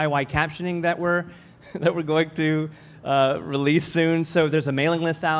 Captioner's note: laughs